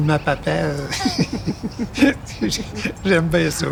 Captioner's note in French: rires